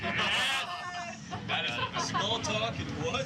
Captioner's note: cheering